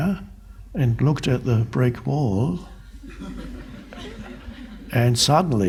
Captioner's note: crowd laughs